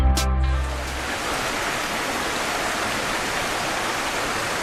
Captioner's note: water babbling